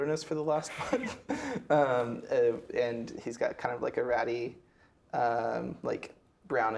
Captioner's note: laughing